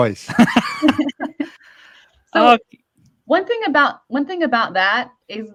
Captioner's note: chuckle